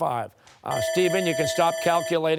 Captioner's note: timer